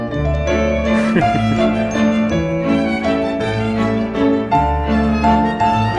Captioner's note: laughs